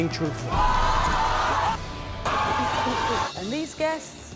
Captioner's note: crowd shouting